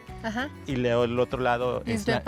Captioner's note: speaking Spanish